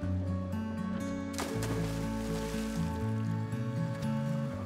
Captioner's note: splashing